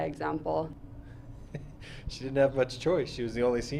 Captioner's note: chuckles